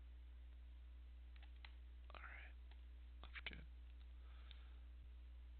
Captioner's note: whispers